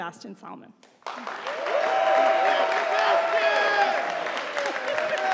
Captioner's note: audience applauding